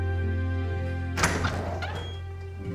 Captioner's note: door opens